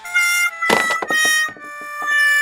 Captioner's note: sound of burnt frybread falling